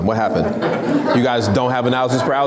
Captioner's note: laughs